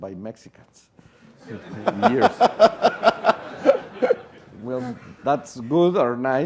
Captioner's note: laugh